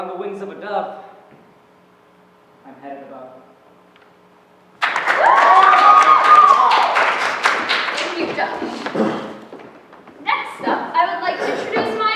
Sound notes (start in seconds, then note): 4.8 applause; 4.8 cheering